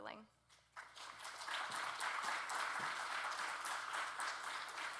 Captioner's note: audience clapping